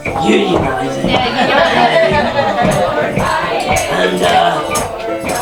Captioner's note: audience cheering